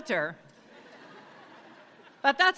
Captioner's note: audience laughs